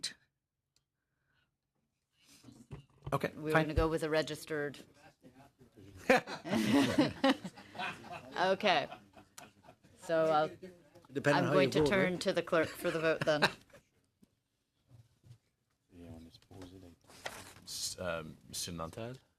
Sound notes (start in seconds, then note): 14.4 laughter